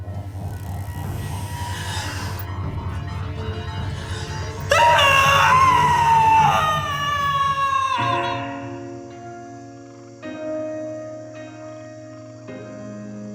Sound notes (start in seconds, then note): 1.6 Claire gasps; 1.6 dramatic music; 4.6 Claire screams; 8.2 bugs chirping; 8.2 soft music